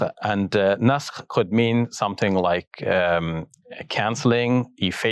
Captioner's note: speaks Arabic